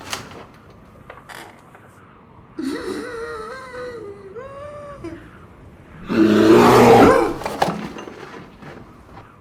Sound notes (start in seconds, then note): 2.6 gasps; 6.0 growls